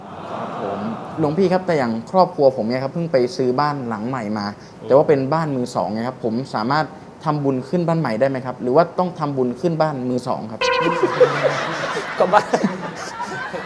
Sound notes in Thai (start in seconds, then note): 10.8 หัวเราะ